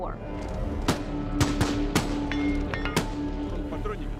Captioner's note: rounds being fired